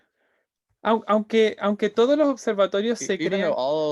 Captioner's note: speaking in Spanish